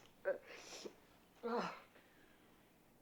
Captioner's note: groans